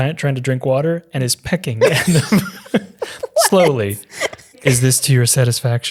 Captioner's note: laughing